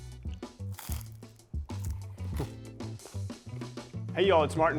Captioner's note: teeth crunching